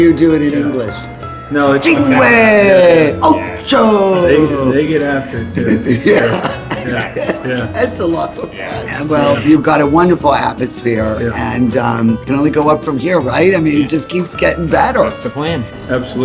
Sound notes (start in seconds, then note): 2.8 speaking in foreign language